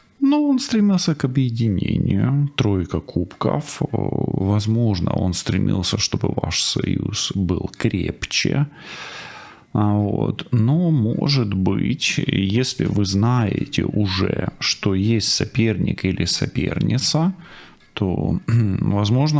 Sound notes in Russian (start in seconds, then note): 8.8 тяжело вздыхает; 13.5 фыркает